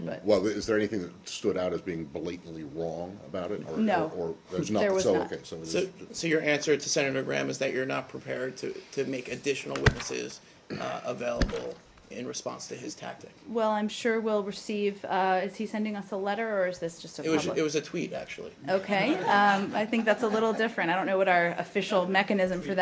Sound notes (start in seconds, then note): 19.1 laughter